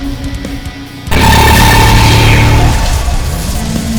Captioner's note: explosion booms; scorpion beast wails; tentacle beast blares